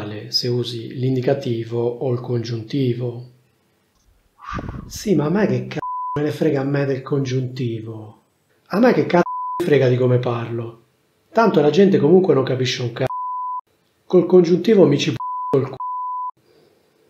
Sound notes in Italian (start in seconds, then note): 5.5 beep; 13.0 beep; 15.2 beep